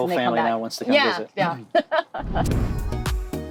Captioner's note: laughing; upbeat music